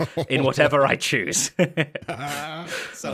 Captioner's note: laughs